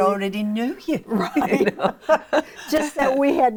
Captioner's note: laughs